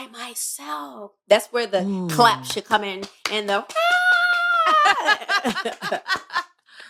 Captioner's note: cheers; laughter